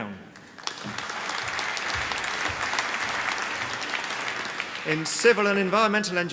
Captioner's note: applause